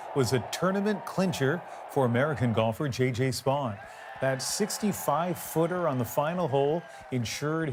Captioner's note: cheers and Applause